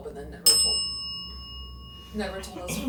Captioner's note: bell dings